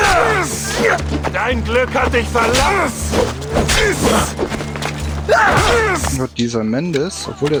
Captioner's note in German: schreien